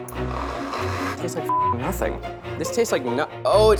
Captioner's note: beep